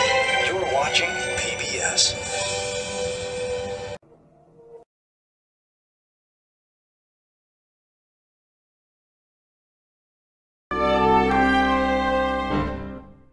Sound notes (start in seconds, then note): 4.0 silence; 10.7 broadway-style music plays